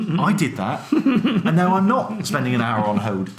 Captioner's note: laughs